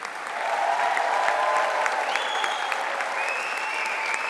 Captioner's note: all applauding